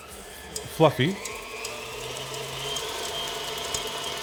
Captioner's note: mixer whirring